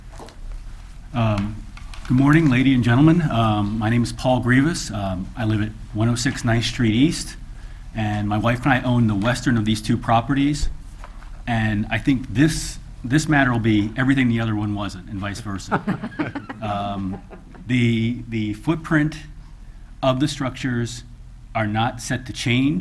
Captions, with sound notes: - Good morning, lady and gentlemen, my name is Paul Grivas. I live at 106, 9th Street East and my wife and I own the Western of these two properties. And I think this matter will be everything the other one wasn't and vice versa. (chuckles) The footprint of the structures are not set to change